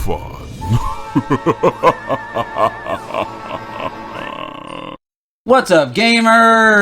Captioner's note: laughter